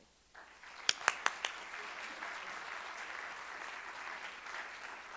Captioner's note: audience applauding